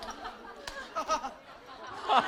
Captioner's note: haha